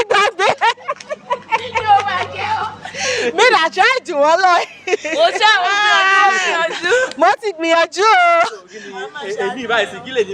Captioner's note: waves of laughter